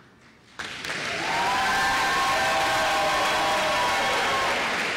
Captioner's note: applause